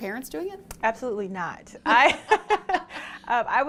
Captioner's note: laughing